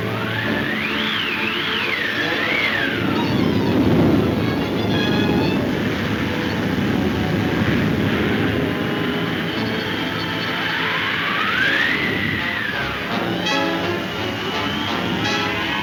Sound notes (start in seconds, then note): 0.1 suspenseful music; 3.3 wind roaring; 9.8 wind blowing; 12.3 dramatic music